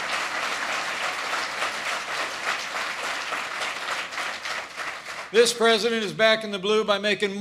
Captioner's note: applause